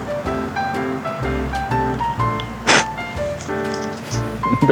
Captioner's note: laughs